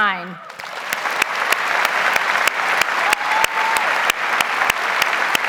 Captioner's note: audience applauds